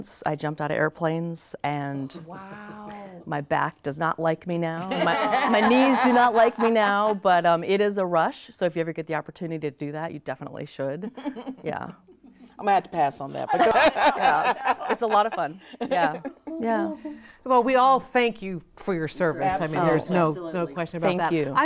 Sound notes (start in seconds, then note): 4.8 ladies laughing; 11.0 lady giggling; 13.4 ladies laugh; 19.3 ladies chattering